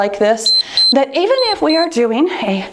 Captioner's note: timer beeps